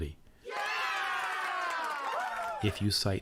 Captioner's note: people cheering